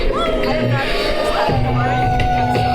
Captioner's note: Oberon howling; audience howling